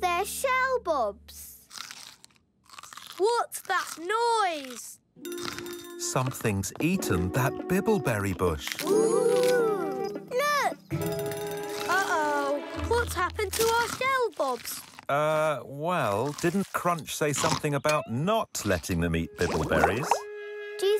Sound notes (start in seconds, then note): 1.6 chewing